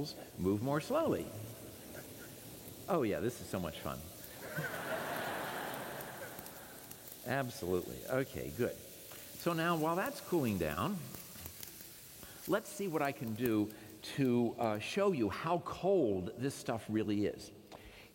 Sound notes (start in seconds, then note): 4.4 laughter; 6.4 hissing sound